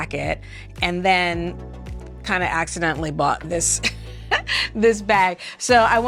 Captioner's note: laughing